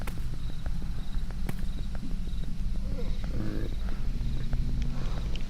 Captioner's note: branches snapping